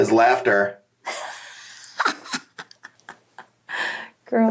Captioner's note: laughs